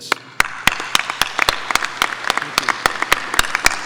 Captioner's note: audience applauding